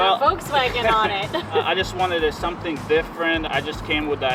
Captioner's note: laughs